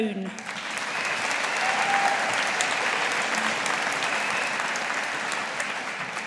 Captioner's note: audience applauding